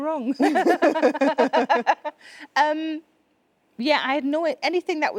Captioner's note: both laughing